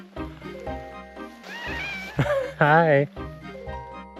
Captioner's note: Laszlo meowing loudly